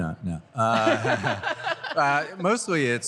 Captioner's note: laughter